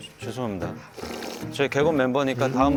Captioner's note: slurp